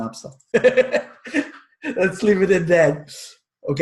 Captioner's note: chuckles